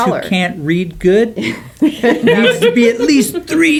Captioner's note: laughing